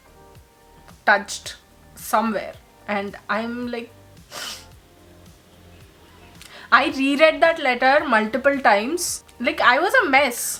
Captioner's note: sniffles